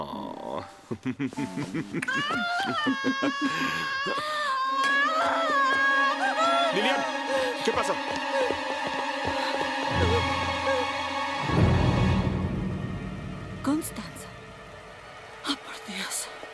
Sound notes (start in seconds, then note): 0.8 Alan laughs; 2.2 Lillian screaming; 9.0 ominous music